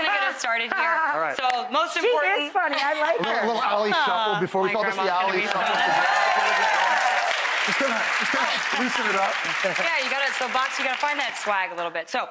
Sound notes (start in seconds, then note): 5.4 audience applause